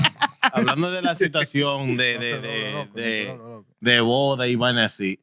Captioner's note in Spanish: Hablando en idioma extranjero